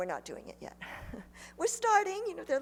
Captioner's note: chuckles